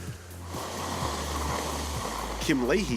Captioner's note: crunching snow